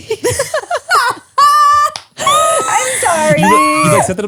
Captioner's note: laugh